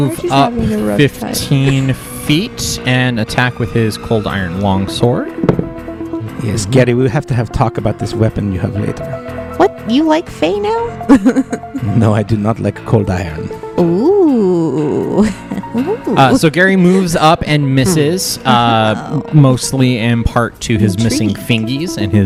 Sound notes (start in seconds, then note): 5.4 die rolls